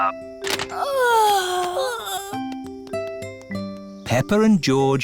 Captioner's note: peppa and george yawning